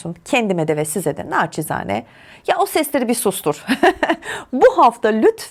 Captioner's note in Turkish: kahkaha